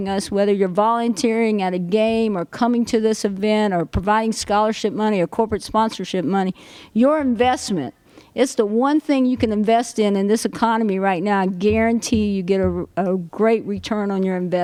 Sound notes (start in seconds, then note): none